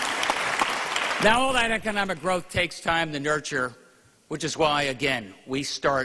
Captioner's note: applause